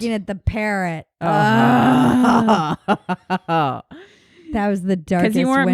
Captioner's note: grumbling